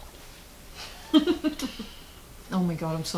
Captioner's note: laughing